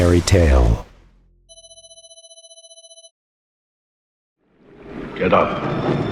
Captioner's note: phone Ringing